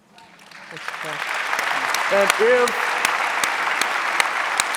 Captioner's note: audience applauding